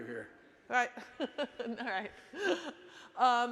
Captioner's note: laughing